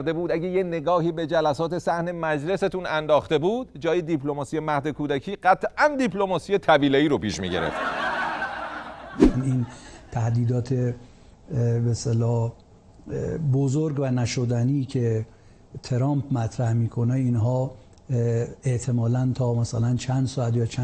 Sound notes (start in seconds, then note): 9.2 laughter